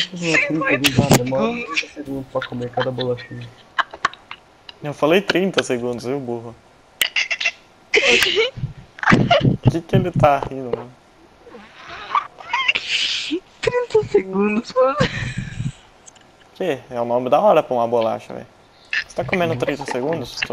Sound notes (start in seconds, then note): 0.7 still laughing hard